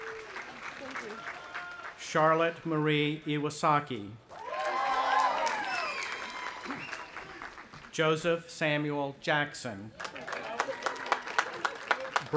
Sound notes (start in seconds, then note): 0.0 audience applauding; 4.3 audience applauding and cheering; 10.0 audience applauding